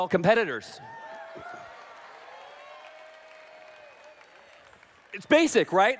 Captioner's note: applause